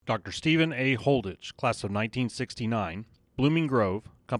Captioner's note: voiceover